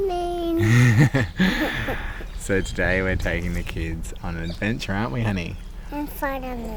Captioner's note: laughs